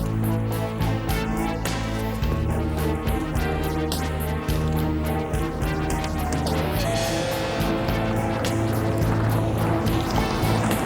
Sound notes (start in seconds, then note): 5.0 car engine rumbling